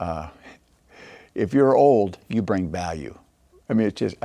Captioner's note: laughing